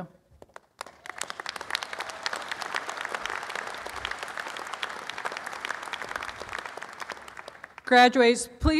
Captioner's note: applause